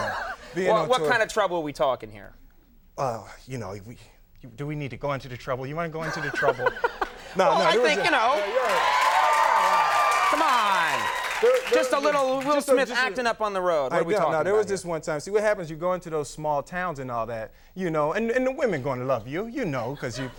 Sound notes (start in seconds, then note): 0.0 Conan laughing; 6.0 Conan laughing; 9.4 audience cheering and clapping